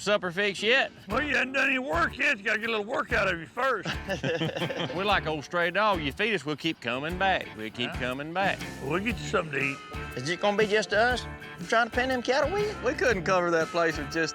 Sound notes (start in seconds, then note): 3.7 chuckling